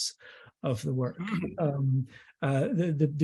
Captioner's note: clears throat